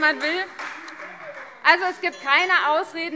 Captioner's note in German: Fortgesetzt Zurufe - Glockenzeichen